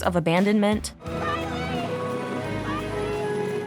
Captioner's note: shouts